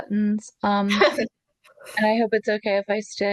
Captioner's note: laughs